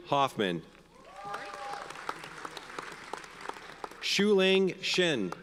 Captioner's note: audience cheers and applauds